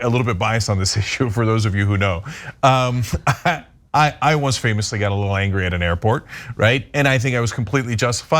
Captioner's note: laugh